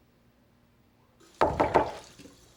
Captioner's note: knock on door